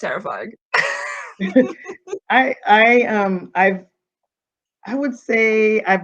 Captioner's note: chuckling